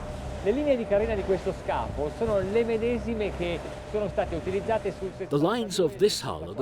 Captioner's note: man speaks in foreign language